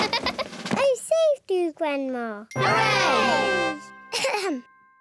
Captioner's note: laughs; all cheer; clears throat